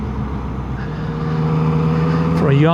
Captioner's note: engine revs